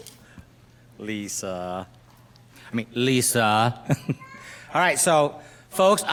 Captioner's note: laughs